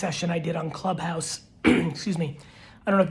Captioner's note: clears throat